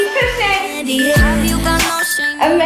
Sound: timer beeping

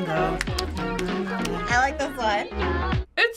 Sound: both sing along; humming

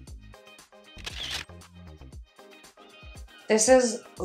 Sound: camera shutters

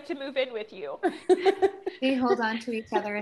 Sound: laughter

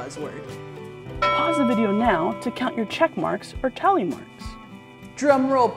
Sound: ding

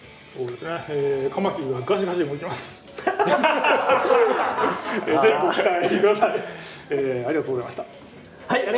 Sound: laughs

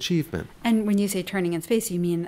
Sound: voiceover

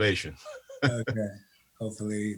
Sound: laughs

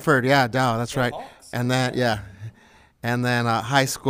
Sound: LBUSD Staff faintly speaking

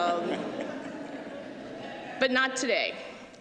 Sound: laughter

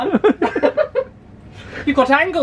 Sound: laughing

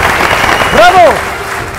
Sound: applause and scream

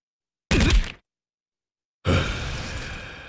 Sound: whack; exhales in Japanese

